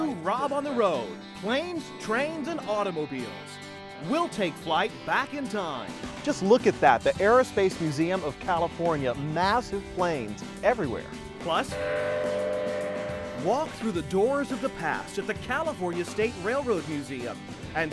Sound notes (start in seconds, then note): 11.7 train whistle